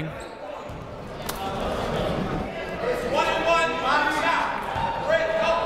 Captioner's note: people shouting in the crowd